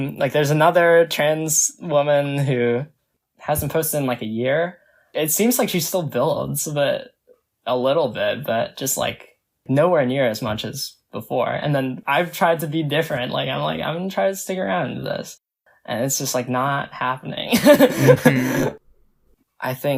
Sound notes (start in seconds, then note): 17.6 laughs